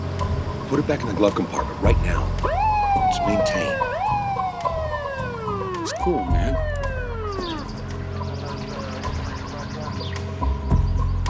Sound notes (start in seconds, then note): 4.1 siren wailing; 8.1 suspenseful music